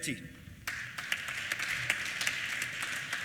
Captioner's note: applause